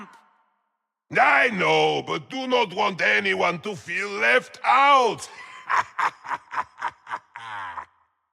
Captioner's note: laugh